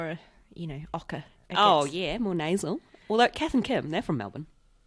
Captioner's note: mock australian accent